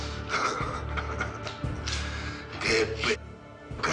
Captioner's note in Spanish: Ríe